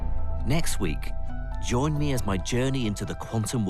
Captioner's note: voiceover